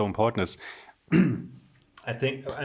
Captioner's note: clearing throat